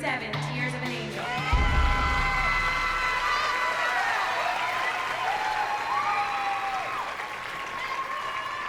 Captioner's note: cheers and applause